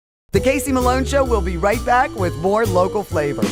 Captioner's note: voiceover